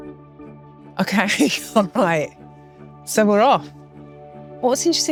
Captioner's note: laughs